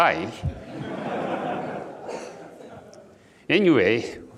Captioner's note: audience laughs